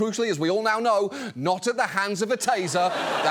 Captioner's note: audience laughs